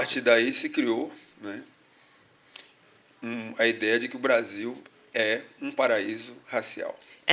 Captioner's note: speaking portuguese